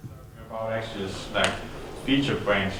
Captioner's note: voiceover